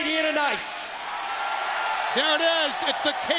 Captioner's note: crowd cheers